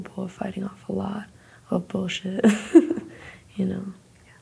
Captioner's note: laughs